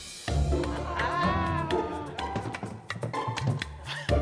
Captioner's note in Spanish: Exclamaciones de sorpresa